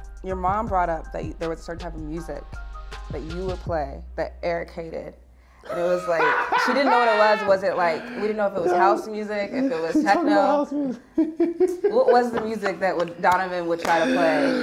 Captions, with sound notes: Your mom brought up that there was a certain type of music that you would play, but Eric hated. It was like, she didn't know what it was. It was like, she didn't know what it was. (laughing) Was it like, we didn't know if it was house music? She’s talking about house music. (laughing) What was the music that Donovan would try to play?